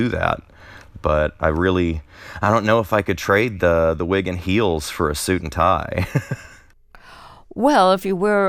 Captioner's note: laughter